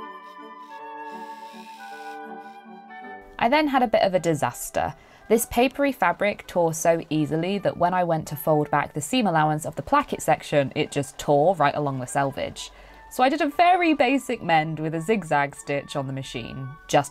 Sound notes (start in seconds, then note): 3.3 machine whirring sped up